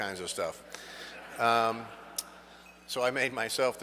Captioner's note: audience laughs